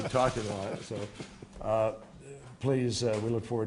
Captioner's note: laughter